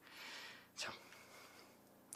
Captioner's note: whispering